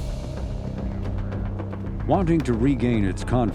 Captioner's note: bouncy music; murmurs